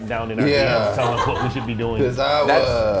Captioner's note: laugh